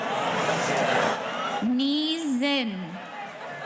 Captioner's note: none